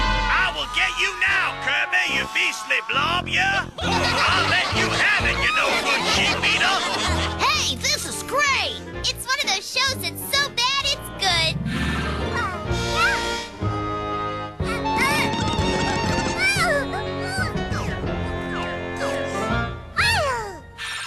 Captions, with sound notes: - I will get you now, Kirby, you beastly blob, ya! - (all laughing) - I'll let you have it, you no-good chip-eater! - Hey, this is great! - It's one of those shows that's so bad, it's good. - Poyo? (whimpering) Poyo! Poyo!